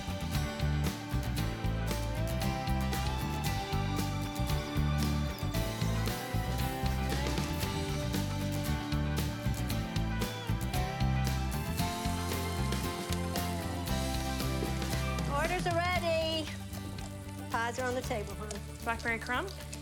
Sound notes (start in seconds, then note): 12.6 bacon sizzling